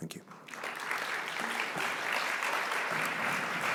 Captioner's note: applause